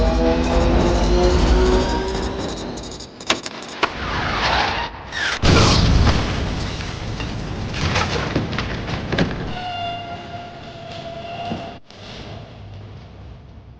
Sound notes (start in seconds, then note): 5.3 boom